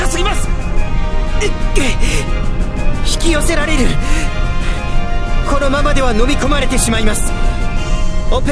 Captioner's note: wince